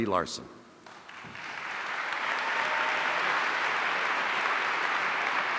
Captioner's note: audience applauding